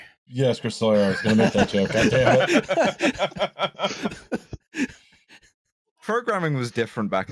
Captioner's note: laughter